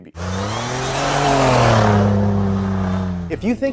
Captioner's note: engine roaring